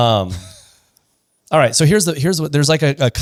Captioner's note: laughs